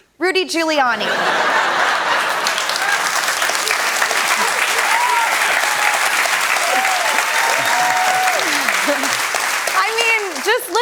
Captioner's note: laughter, cheers, applause